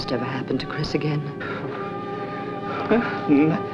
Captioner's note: sputtering